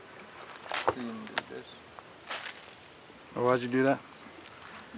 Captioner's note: speaking faintly